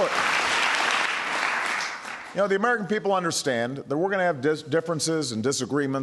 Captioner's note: applause